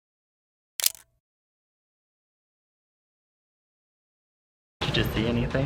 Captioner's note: camera shutter